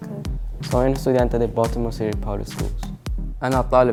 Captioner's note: speaks in foreign language